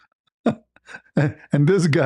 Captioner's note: ketawa